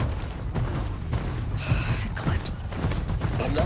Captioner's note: sigh